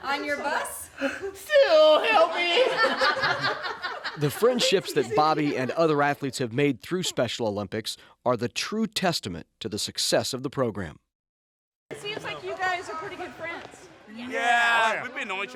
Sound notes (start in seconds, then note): 3.0 laughs